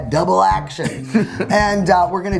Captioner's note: laughing